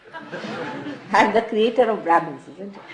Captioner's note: laughter